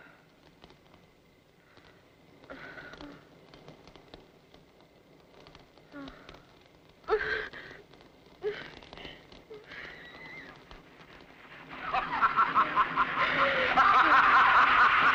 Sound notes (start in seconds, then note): 8.4 moaning; 11.8 man laughing